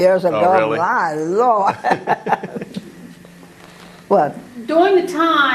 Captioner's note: laugh